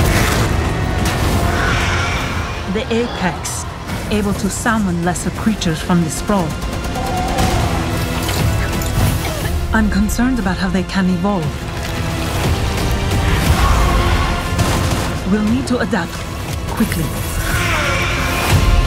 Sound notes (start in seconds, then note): 0.0 explosion; 1.4 growls; 6.6 gunfire; 8.4 coughing; 14.4 gunfire; 18.6 gunfire